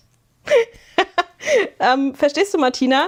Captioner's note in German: gelächter